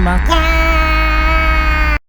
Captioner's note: scream